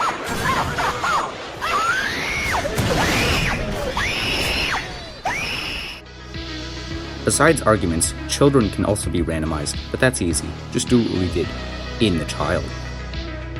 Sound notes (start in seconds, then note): 1.5 aaaaaaaaaaaaa; 1.6 aaaaaaaAAAAAAAAAA